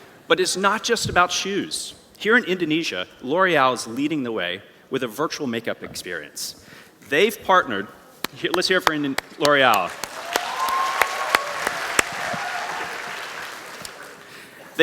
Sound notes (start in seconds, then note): 9.1 clapping; 9.1 applause